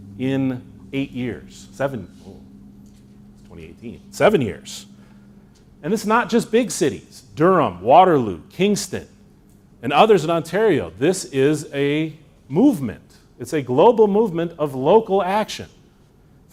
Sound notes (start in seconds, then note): none